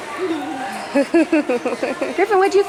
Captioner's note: laughs